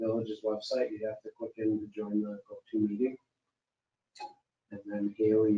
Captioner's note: speaking faintly